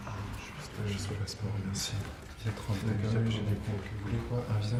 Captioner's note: man, in French